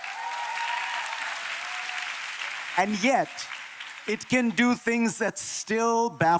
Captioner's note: applause